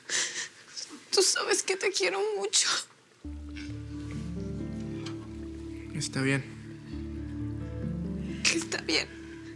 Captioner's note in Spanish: Sollozos